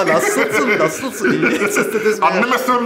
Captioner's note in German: Er spricht türkisch